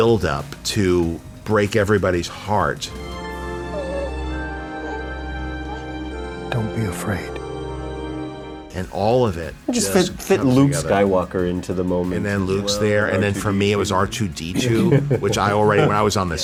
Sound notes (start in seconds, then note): 3.6 cooing